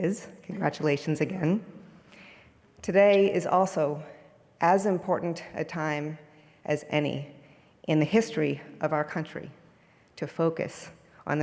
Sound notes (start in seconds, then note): none